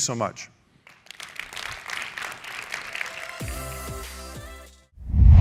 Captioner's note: applause